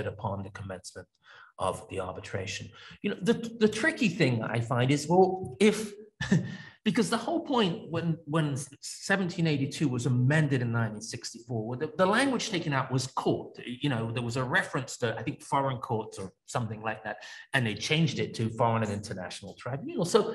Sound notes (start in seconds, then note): 6.3 laughs